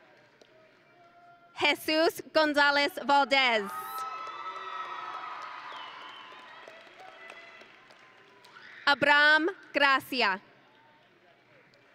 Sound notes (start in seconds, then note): 3.7 audience and graduates cheering